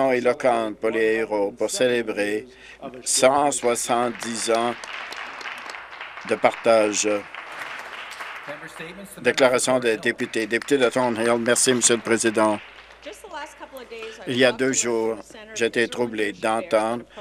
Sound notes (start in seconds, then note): 9.8 applause